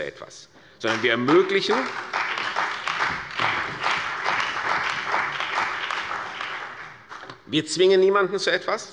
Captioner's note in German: Beifall bei der CDU und dem BÜNDNIS 90/DIE GRÜNEN